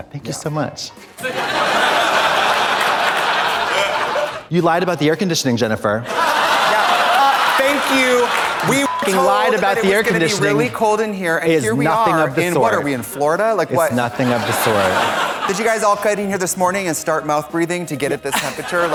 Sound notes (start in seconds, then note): 1.2 audience laughs; 6.0 audience laughs; 9.3 beep